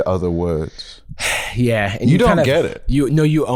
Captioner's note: sighs